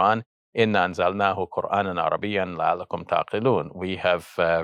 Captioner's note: speaking Arabic